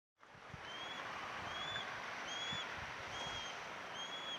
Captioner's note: seagulls squealing